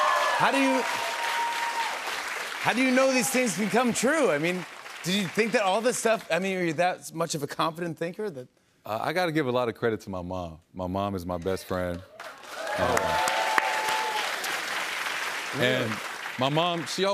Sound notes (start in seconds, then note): 0.0 cheers and applause; 12.0 cheers and applause